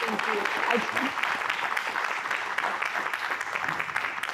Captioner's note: applause